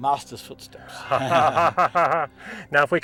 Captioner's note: laughs